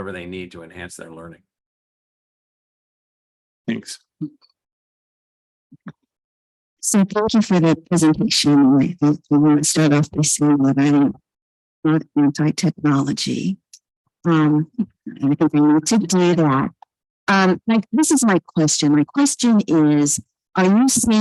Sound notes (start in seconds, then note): 12.1 audio echoing